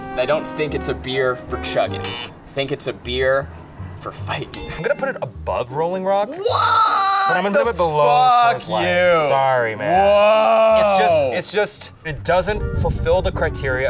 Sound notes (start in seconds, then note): 2.0 buzz; 4.6 ding